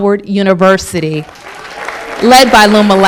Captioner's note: applause